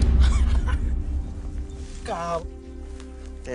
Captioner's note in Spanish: Risas